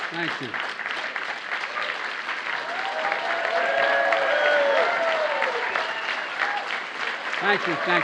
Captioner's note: applause